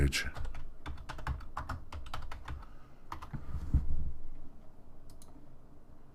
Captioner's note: types on a keyboard